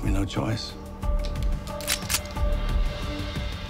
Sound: gun cocks

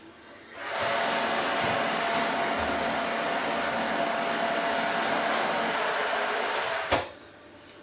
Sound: oven roarin

